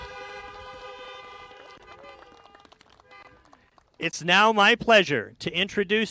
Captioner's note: applause